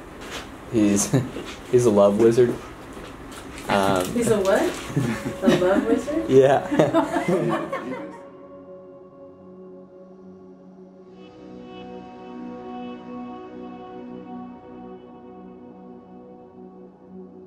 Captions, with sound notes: - He's a love wizard. - He's a what? A love wizard? - Yeah. (laughing) (soft music)